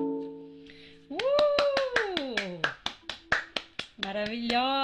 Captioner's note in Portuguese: aplausos